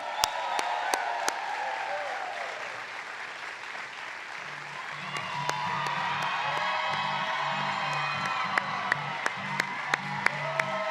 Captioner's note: applause